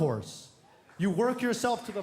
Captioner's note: applause